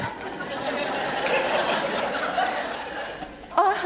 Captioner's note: audience laugh